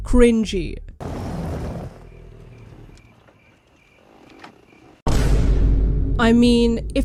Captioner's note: motorcycle noises + Vine boom